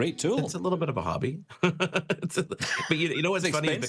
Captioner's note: laughs